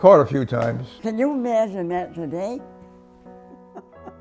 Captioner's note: laughter